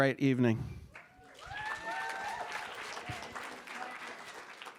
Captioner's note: cheers and applause